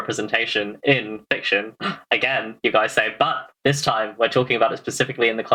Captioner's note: gasps